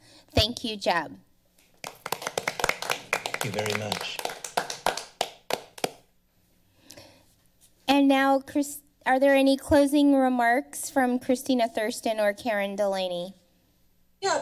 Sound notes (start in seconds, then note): 1.7 all applauding